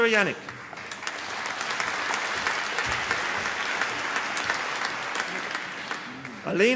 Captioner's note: applause